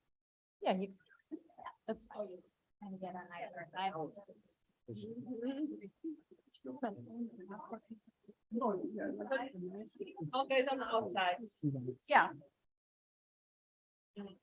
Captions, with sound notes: (group chattering) >>All guys on the outside. Yeah.